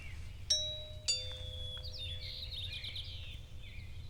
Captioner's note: doorbell rings